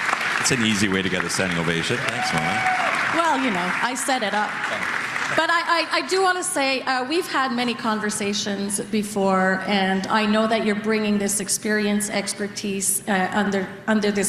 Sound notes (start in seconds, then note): 3.9 applause